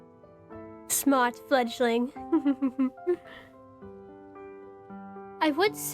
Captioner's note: giggles